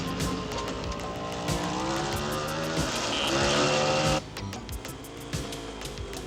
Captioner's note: motorcycle engines roaring